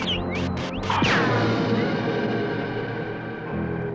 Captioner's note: whistling; ricochets; suspenseful music